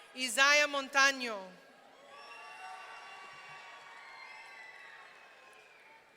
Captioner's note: audience cheering